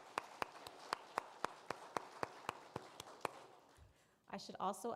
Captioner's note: applause